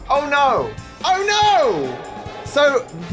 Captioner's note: voice echoes